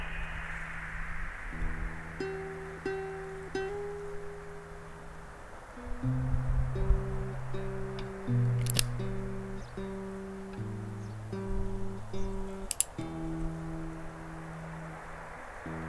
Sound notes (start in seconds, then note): 0.0 eagle cries; 8.6 gun cocks; 12.6 revolver clicks